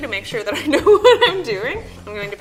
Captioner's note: laughs